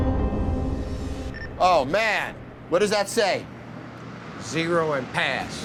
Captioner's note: intense music continues; monitor beeping